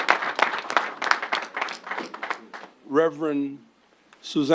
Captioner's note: applause